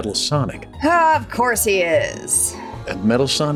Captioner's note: sighs